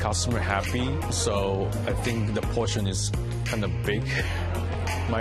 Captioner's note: chuckles